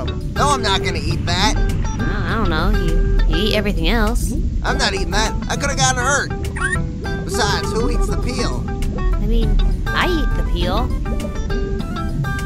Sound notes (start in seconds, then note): 6.6 car alarm